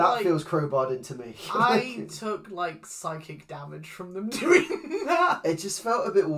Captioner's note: laughs